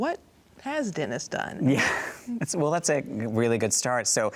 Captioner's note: chuckles